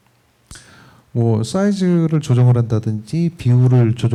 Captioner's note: speaking korean